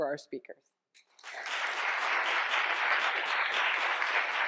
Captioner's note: applause